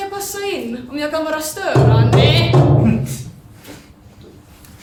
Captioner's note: knocking sound; under breath